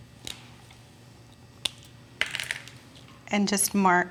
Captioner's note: cap is uncapped from Sharpie and hits table